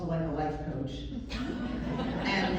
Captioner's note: laughter